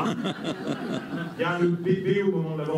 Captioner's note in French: rires